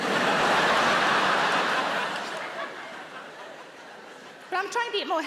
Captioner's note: audience laughs